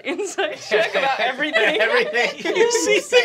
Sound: laughter

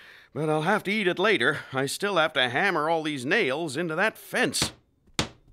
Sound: hammering

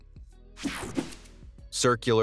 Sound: air whooshing

